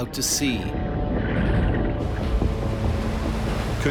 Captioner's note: swish